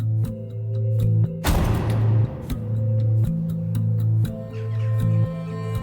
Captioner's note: the sound of the door closing